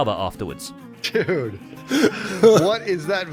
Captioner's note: laughs